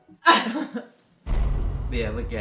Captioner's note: laughs